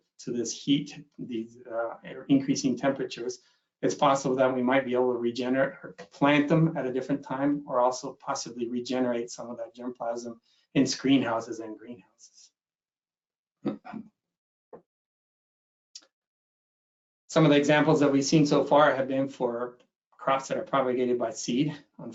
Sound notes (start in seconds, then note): 13.6 clears throat